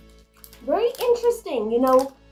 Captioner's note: chewing